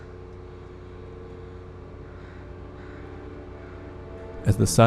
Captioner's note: crows cawing